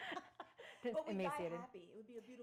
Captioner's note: laughing